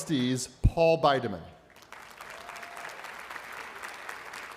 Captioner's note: applause